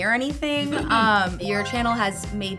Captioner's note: chuckles